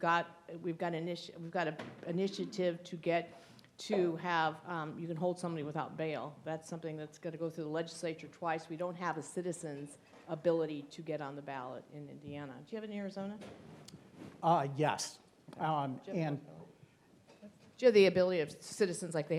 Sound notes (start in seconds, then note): 16.1 speaks faintly; 17.2 speaking faintly